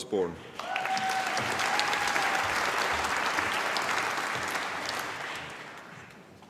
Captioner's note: applause